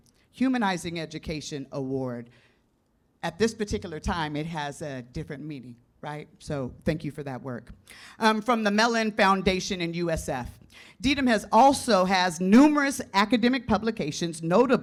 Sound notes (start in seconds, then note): none